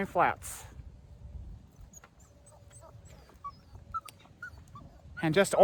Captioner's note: Ella whimpers